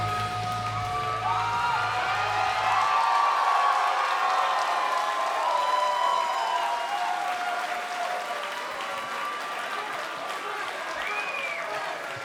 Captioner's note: cheers & applause